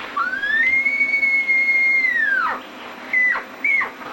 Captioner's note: elk bugle